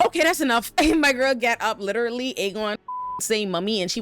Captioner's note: beep